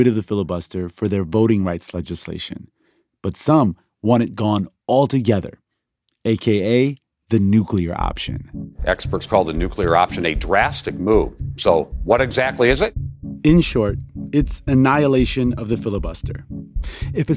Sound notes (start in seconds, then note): 7.3 soundbite of archived recording